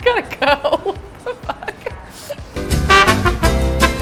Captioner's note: laughs; lively jazz music